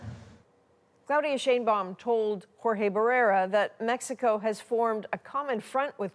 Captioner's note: speaking spanish